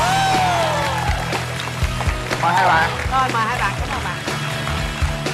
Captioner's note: applause